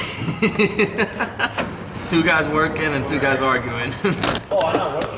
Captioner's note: laughs